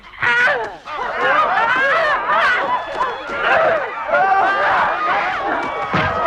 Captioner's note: Hundra grunts; men shouting